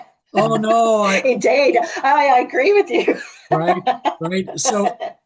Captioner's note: laughs